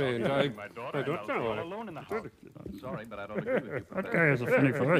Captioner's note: chuckling